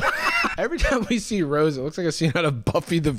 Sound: cackling

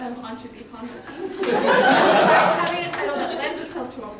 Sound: loud laughter

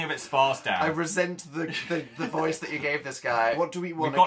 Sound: laughs

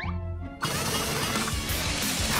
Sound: mechanical sounds

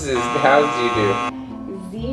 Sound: buzzer buzzing

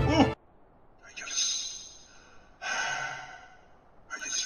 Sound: sigh

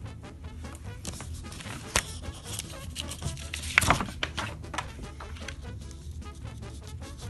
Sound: paper rustling

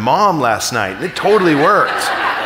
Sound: audience laughing

